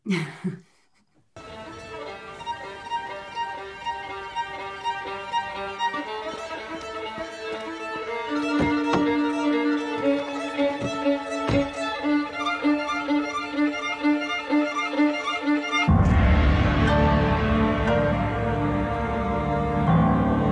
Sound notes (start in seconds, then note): 0.0 chuckles; 8.5 car door clatters; 11.4 car door slams; 15.1 intense dramatic music